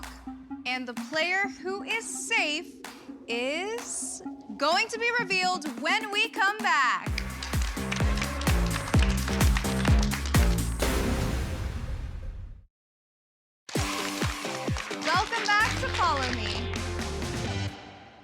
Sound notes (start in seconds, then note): 13.7 applause